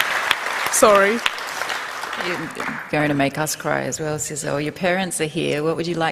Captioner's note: applause